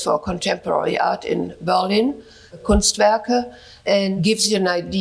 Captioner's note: speaks in German